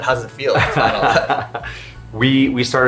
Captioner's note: laughing